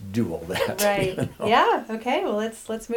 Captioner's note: laughs